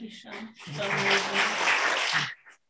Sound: applause

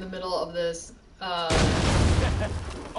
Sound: explosion; laughs

